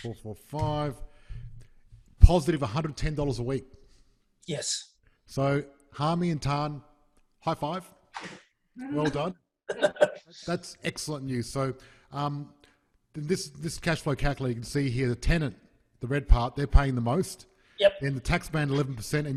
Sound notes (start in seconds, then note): 8.2 hands swoosh; 9.7 soft laugh; 9.7 laughs loudly